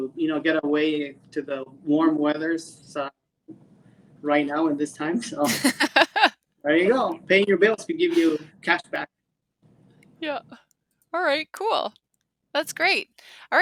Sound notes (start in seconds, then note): 5.4 laughing